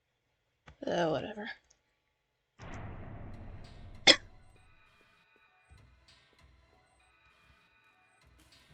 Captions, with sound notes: Ah, whatever.. *cough* /kôf,käf/ expel air from the lungs with a sudden sharp sound.